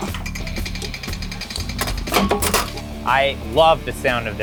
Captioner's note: machine clicks and thumps